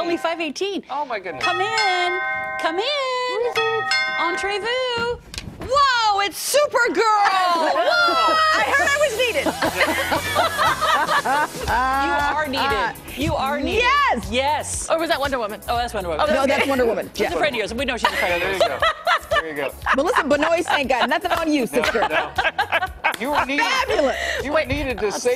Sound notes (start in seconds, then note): 18.0 laughter